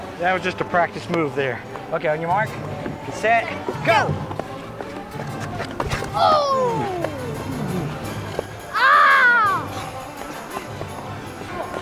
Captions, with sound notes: That was just a practice move there. Okay on your mark, get set, go! - Oh! (howls)